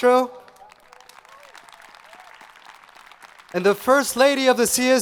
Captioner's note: audience applauding